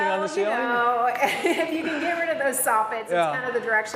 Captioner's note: laughs